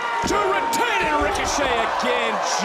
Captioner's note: crowd shouts "one, two"